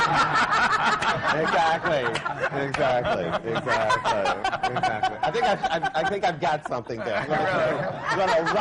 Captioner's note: laughter